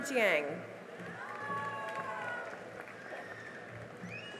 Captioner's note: cheering and applause